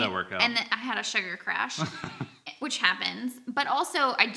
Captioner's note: laughs